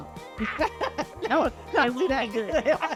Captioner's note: both laugh